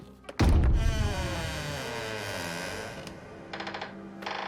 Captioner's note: eerie; creaking continues; eerie continues